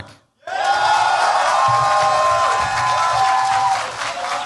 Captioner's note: cheers, applause